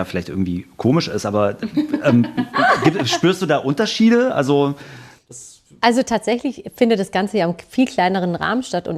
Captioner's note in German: gelächter